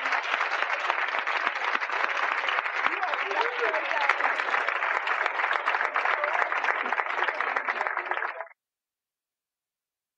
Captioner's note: applause